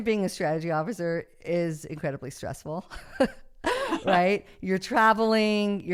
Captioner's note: laughs